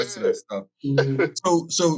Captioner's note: laughs